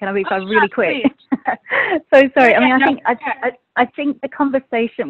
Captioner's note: laughs